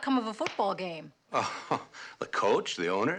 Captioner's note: snickering